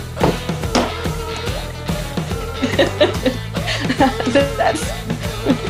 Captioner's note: laughs